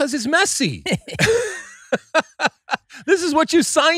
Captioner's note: laughing